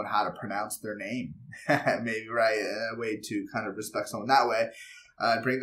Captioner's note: laugh